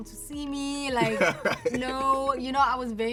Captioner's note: laughs